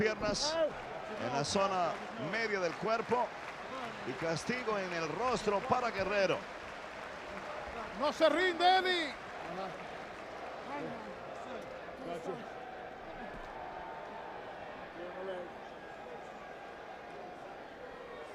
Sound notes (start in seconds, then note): 9.0 applause